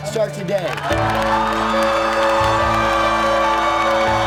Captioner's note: cheers